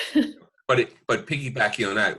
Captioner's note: laughs